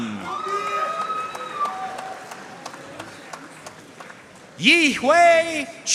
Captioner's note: audience cheering and applauding